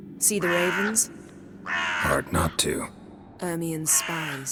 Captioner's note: ravens caw